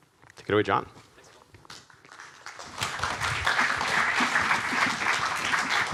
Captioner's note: audience applauding